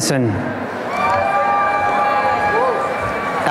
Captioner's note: applause and cheering